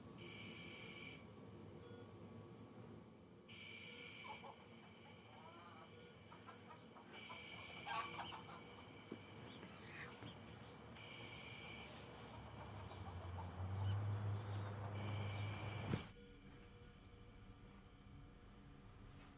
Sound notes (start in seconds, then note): 0.1 monitor beeping; 4.5 chicken clucking; 13.8 traffic droning